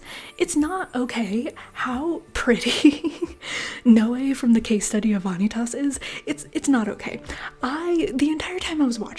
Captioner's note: laughter